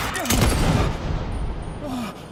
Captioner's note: gunshot